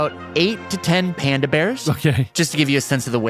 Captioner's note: laughs